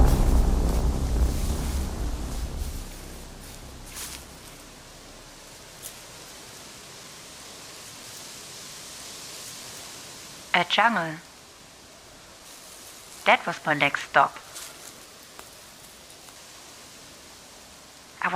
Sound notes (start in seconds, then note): 0.0 dramatic Music; 0.3 forest Background